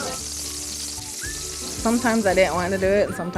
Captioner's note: grease sizzle